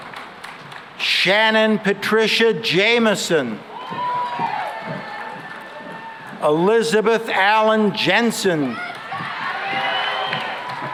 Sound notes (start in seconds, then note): 3.6 cheering and applause; 8.6 cheering and applause